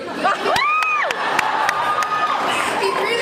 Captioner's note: laughs